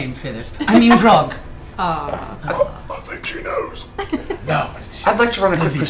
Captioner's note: whispered